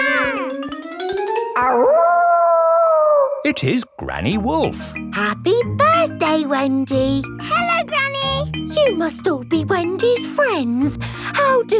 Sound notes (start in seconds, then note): 0.0 kids yelling; 1.6 howling